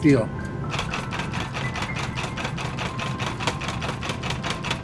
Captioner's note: power hammer pounding